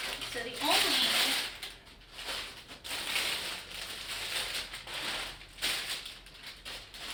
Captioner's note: crinkling; crinkling